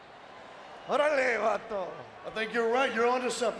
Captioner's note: Eddie speaking Spanish